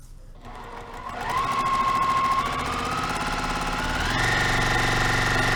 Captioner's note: sewing machine rattling